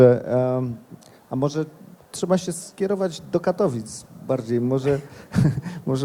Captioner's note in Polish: śmiech